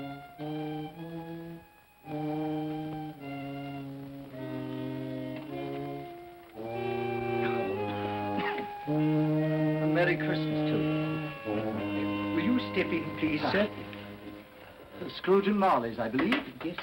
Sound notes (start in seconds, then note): 7.3 coughs; 16.1 door closes